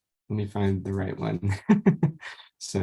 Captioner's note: laughs